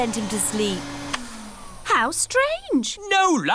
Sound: whirring stops

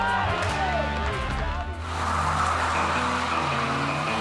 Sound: energizing country music; car revving; intense music

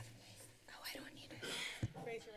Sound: whispers

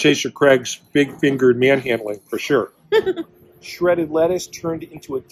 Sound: giggle

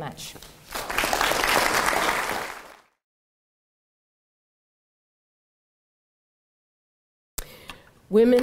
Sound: applause

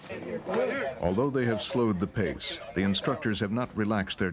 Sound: voiceover

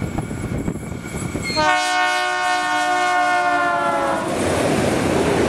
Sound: loco horn - Doppler effect

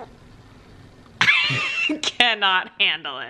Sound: laughs

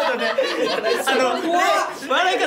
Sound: the laugher

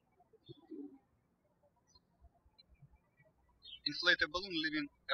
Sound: birds chirping

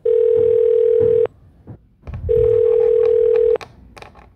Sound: telephone ringing

